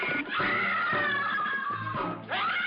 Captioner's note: screaming